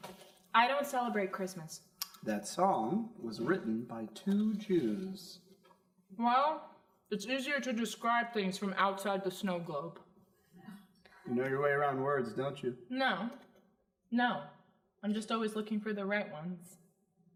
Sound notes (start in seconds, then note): none